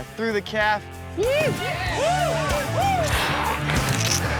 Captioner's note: people cheering